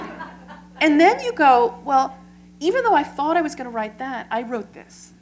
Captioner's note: laughter